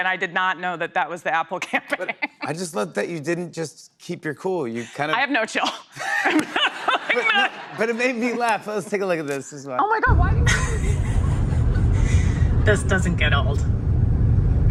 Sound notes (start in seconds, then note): 6.0 laughter; 10.4 laughs